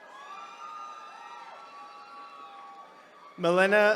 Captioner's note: attendees cheering